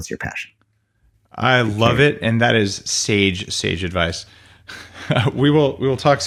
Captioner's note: laughs